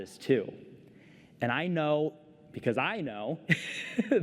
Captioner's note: laughter